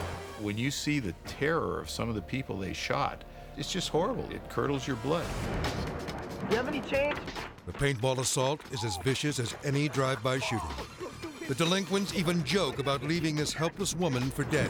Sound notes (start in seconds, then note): 7.7 paint gun popping